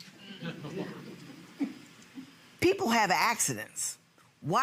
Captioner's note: audience laughing